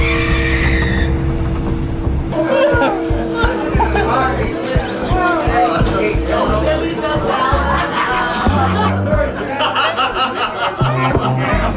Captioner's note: bar Noise